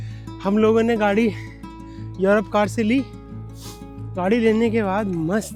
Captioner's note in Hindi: नाक से की जाने वाली आवाज़